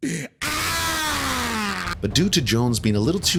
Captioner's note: pitiful scream